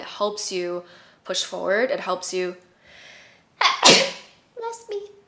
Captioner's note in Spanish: estornudo